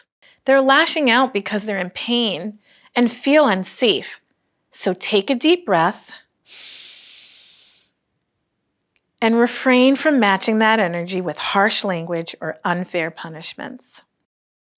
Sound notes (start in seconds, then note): 6.5 inhales